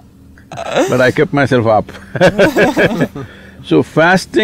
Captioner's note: both interviewers laugh; laughter